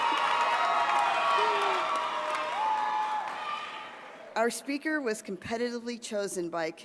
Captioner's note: applause